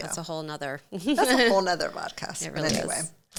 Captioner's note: laughs